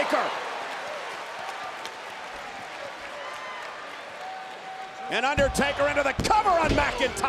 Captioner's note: applause